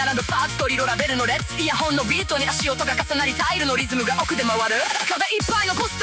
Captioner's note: footsteps layer on the beat, tile rhythm turning deep